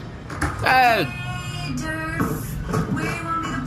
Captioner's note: shouting